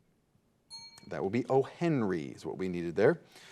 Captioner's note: bell dings